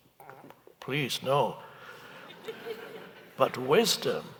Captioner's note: audience laughing